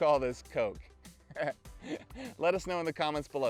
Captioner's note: laughs